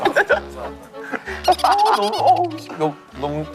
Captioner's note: laughing